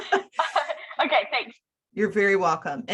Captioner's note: laughs